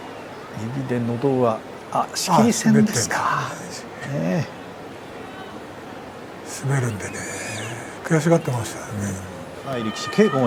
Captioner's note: throat push